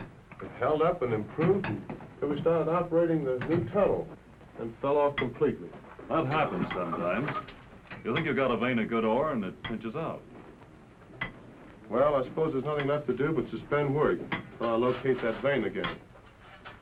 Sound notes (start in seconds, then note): none